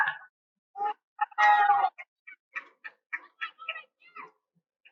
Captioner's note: cheering